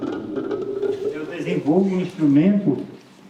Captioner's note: non-english speech